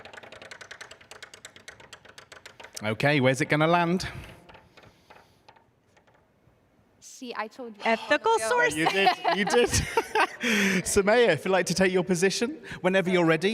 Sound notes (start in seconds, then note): 1.5 laughs